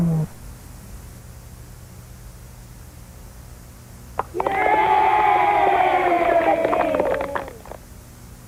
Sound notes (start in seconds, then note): 4.2 crowd cheering